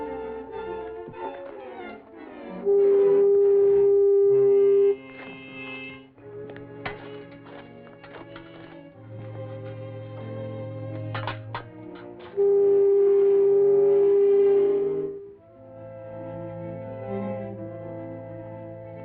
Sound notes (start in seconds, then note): 2.0 tool buzzing; 5.3 suspenseful music; 11.8 tool buzzing; 15.2 suspenseful music